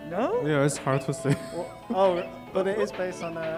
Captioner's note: laughs